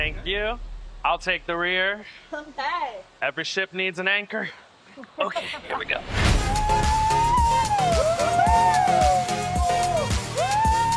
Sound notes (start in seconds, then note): 4.9 laughing; 6.2 group cheering and whooping